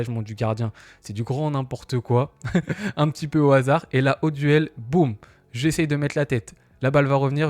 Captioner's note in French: rires